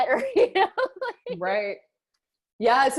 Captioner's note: laughing